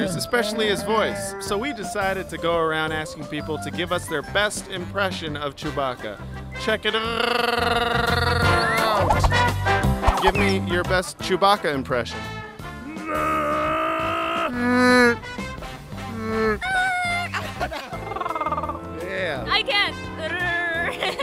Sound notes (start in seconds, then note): 13.6 growls; 14.6 Amazing Chewie Roar; 16.5 Definitely not a Chewbacca roar; 17.8 Also not a Chewbacca roar, more like purring